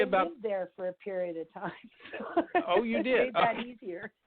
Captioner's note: laughs